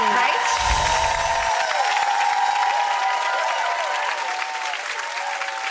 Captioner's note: audience applauds and cheers